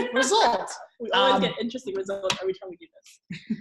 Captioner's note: laughing; laughing